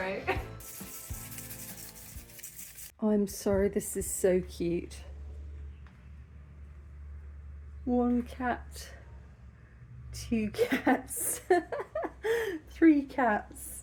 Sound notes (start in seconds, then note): 0.5 salt shaking; 11.3 laughing